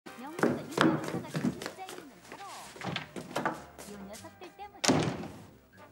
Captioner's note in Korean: tv 소리